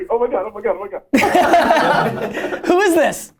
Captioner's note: laughter